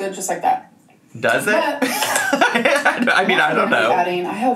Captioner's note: laughs